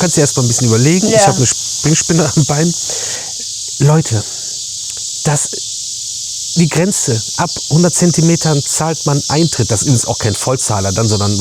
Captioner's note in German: schnauben